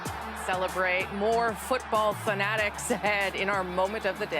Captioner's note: cheers and Applause